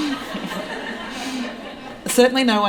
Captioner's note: laughter